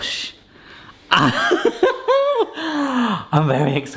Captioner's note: laughs